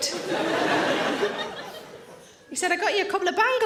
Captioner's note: audience laughing